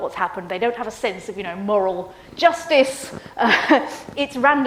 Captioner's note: laughs